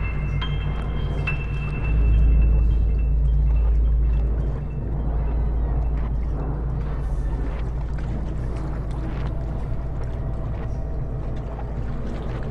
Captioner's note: water Lapping